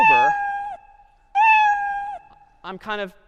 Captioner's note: cat meowing